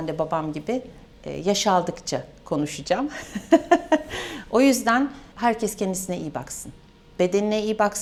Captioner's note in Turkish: kahkaha